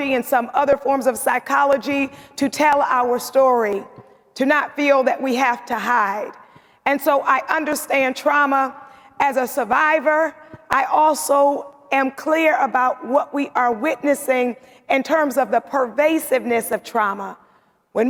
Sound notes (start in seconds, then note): none